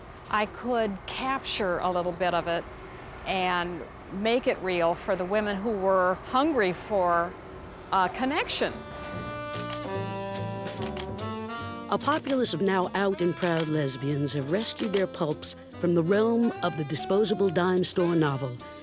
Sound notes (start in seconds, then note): 9.2 camera shutter; 9.2 jazz music